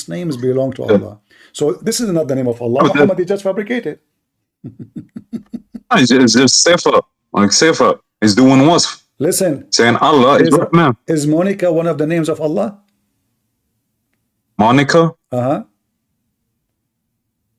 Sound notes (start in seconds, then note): 4.6 Ketawa